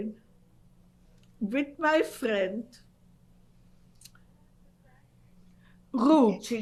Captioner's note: pauses for 3 seconds